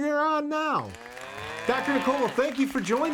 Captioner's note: mooing and applauding